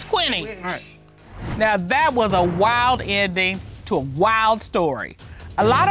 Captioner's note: none